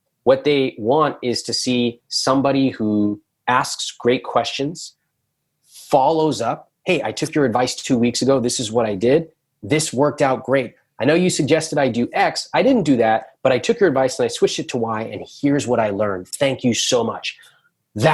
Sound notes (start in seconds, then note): none